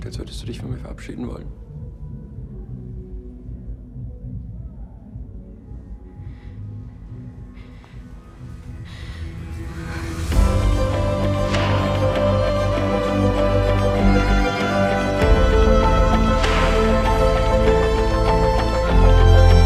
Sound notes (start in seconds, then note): 0.1 Joseph speaking in foreign language; 6.6 Ruby panting; 6.6 suspenseful music; 10.9 romantic music